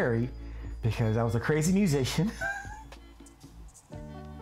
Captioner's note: laughing